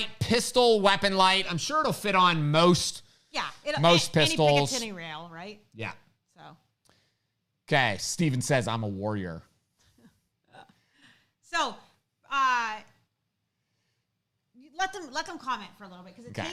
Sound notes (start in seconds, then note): 9.5 laughing